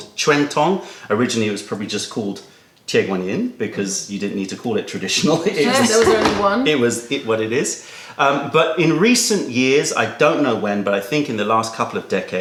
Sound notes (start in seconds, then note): 5.2 laughter